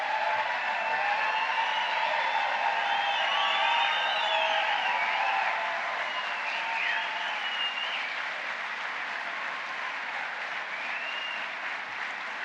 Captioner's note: applause